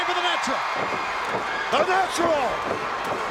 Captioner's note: man stomping